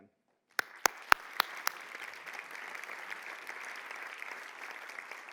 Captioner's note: audience applauding